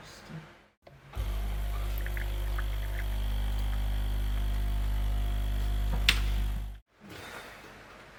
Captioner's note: coffee machine whirring